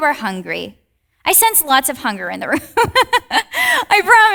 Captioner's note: laughs